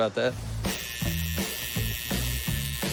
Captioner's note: needle buzzing